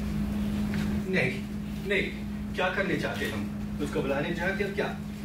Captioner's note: protests in foreign language